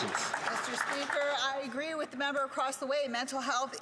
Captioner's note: some Applause